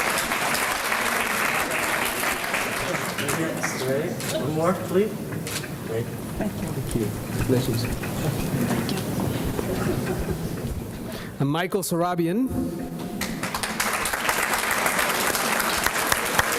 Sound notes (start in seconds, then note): 13.2 applause